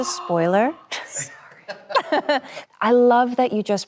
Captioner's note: Anne laughs